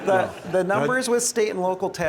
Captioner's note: laughs